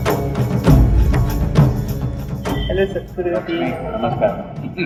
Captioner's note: laughs